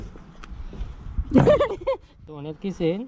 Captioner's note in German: kichern